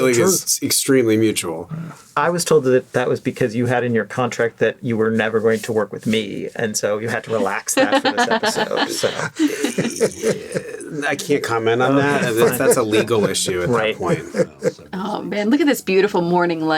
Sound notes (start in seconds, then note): 9.2 laughing